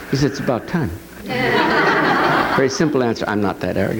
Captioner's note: adience laughs